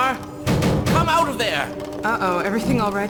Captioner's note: banging